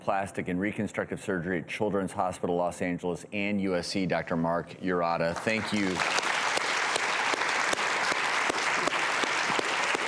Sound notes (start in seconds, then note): 5.3 applause